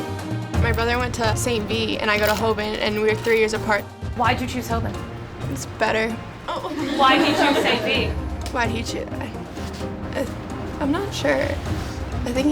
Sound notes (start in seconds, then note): 6.4 laughing